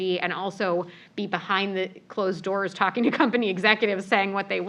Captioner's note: laugh